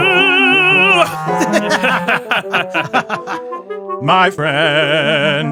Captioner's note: laughing